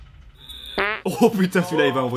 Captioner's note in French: Bruit de pet